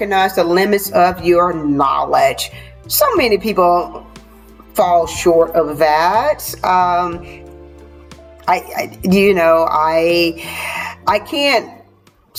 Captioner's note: sighs and gasps